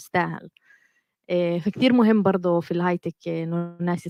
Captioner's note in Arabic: لغة أجنبية